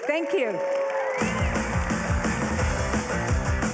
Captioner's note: cheering; upbeat music